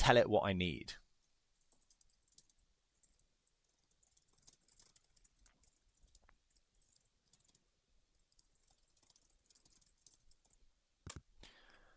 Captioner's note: keyboard clicking